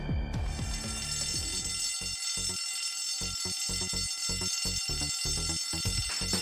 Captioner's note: fire bell